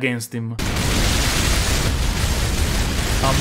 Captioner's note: hellish noise